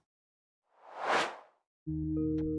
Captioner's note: swoosh; creepy music